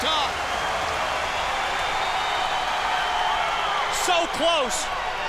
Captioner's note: crowd cheering